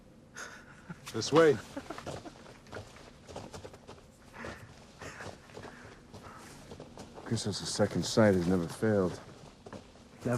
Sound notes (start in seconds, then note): 0.4 Homer laughs